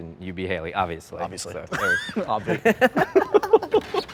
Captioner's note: laughs